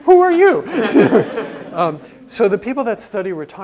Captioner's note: laugh